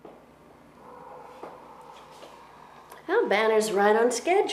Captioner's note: dogs barking